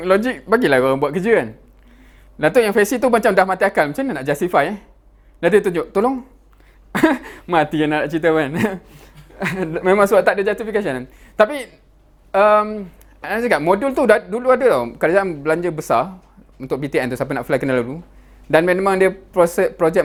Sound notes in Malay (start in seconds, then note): 6.9 ketawa